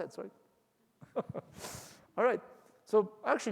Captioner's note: laughs